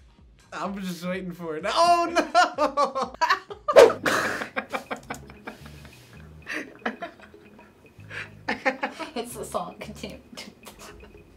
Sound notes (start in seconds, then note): 2.2 laughs; 4.0 chuckling